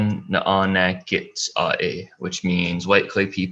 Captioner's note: foreign language